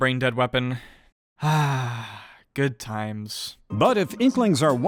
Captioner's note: sigh